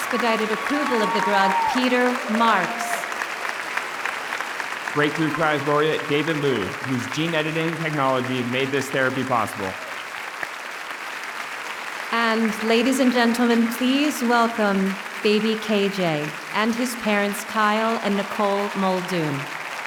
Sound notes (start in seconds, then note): 2.4 audience applauding; 9.9 audience applauding